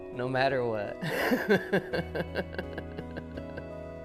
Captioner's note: laughs